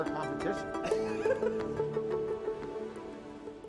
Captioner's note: laughs